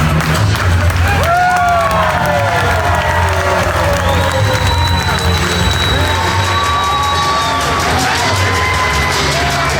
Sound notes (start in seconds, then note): 0.9 audience whooping; 6.9 drum tapping